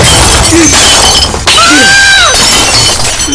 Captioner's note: Glass breaking; Amma screaming